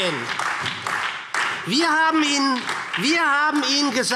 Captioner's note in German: Beifall